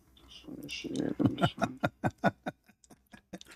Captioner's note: Ketawa